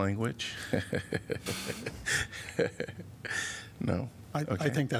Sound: laughter

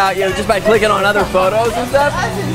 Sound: laughing

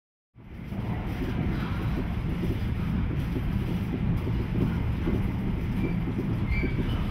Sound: train noises

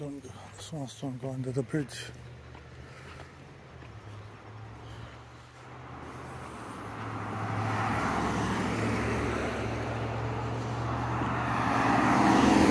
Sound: traffic sound

